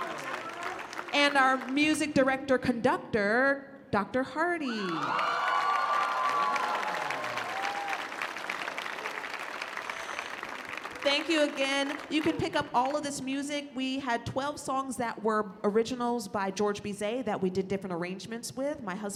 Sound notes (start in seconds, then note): 4.7 cheering